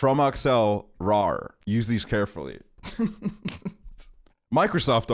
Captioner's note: chuckles